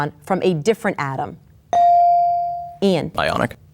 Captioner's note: bell dings